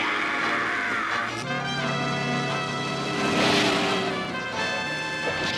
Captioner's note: horn blasting